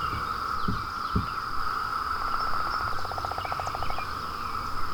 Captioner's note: heart thumping